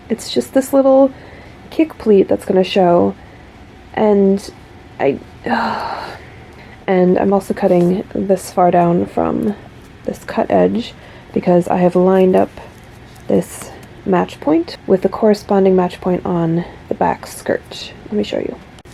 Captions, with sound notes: It's just this little kick pleat that's going to show. And, I - *exasperated sigh* And I'm also cutting this far down from this cut edge, because I have lined up this match point with the corresponding match point on the back skirt. Let me show you.